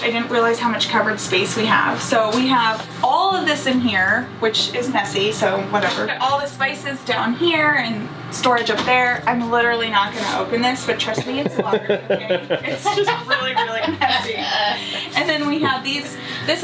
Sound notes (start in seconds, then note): 11.1 laughter